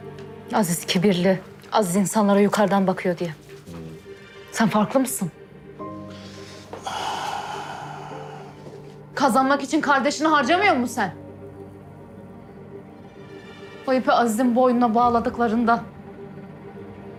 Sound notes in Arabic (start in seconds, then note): 6.1 كنان يتنهد